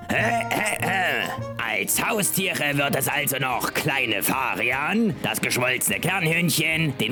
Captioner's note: clears throat